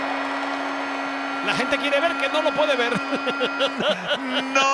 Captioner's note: laugh